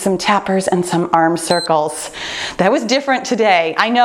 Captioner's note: timer beeps